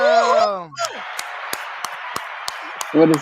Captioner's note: applause